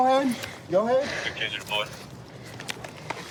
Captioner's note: radio cahtter